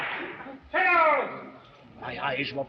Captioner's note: whip lashing